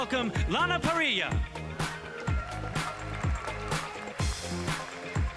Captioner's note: applauding